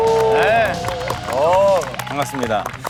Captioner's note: applause